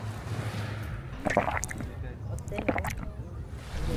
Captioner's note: gulp, gulp